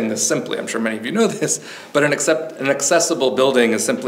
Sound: chuckles

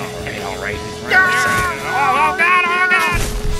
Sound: yells

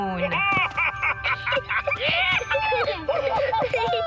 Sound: excited laughter

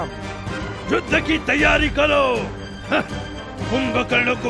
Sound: scoffs

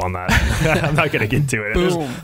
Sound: laughing

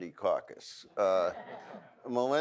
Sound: audience laughs

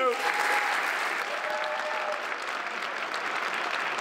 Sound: applause

